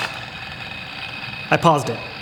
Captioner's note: chainsaw noises